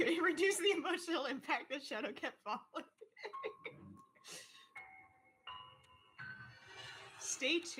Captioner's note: laughing